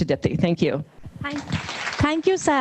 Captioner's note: audience applauding